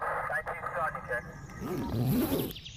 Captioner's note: radio Chatter